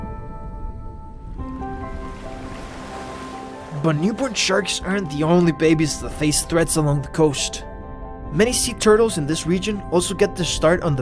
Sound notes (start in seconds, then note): 1.5 gentle music; 1.9 water gushing